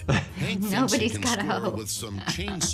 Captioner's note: laughs